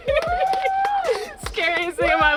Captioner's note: clapping and cheering